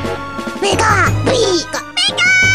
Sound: angry noises

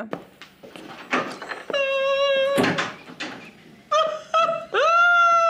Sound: weeps uncontrollably

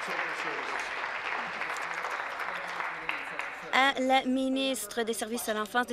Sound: applause

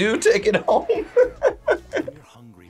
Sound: laughs

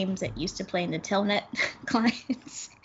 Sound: laughs

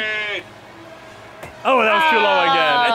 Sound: ball thudding

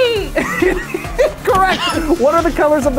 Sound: laughs

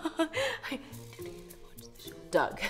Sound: chuckles; whispering

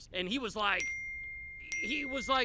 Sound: dinging

